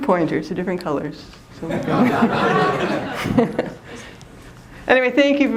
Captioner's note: laughter